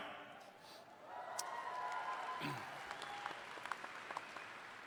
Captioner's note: audience cheering